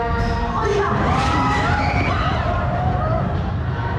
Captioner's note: riders scream